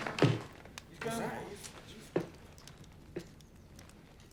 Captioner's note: murmuring